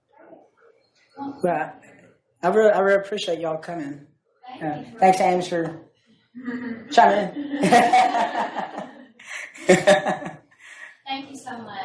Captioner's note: laughter